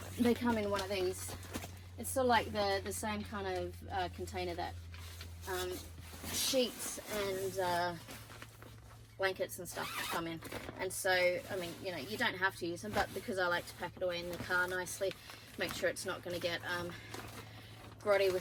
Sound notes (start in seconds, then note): 9.8 zips loudly